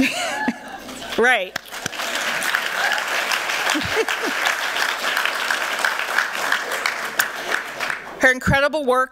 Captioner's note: applause